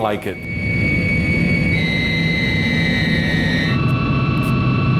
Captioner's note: plane engine roaring